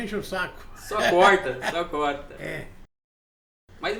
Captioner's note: laughs